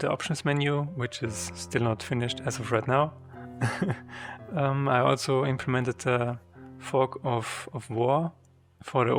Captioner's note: laughs